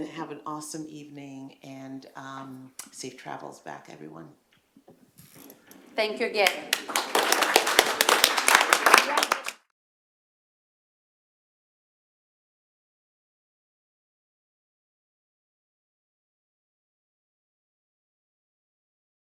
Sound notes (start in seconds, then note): 6.4 applause